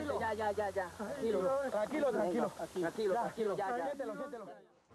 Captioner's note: Spanish spoken audio